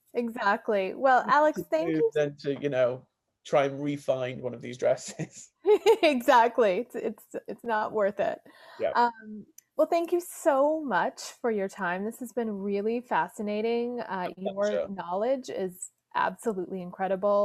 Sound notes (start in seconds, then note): 3.8 chuckles; 4.8 laughs